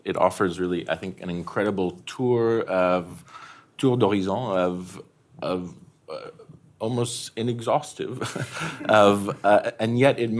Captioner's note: french